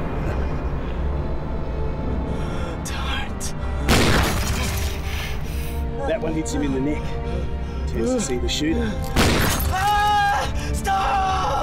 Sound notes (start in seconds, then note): 3.8 gunshot; 9.2 gunshot